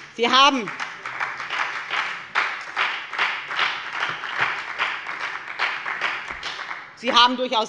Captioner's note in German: Beifall bei der FDP und der SPD